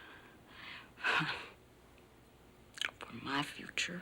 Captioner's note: chuckles nervously